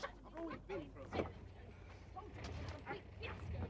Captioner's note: Maude muttering angrily